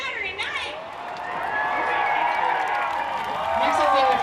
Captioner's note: cheering